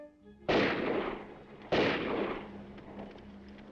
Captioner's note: gun firing; horse hooves clopping